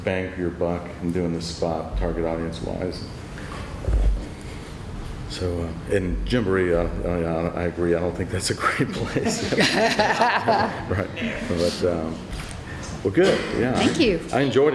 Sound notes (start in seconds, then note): 8.9 laughs; 9.0 laughter